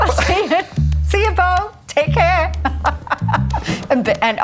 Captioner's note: laughing